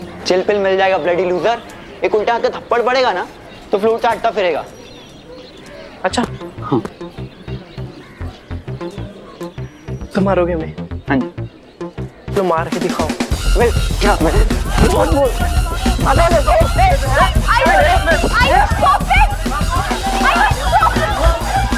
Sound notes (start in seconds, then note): 13.3 grunting and grumbling; 15.8 screaming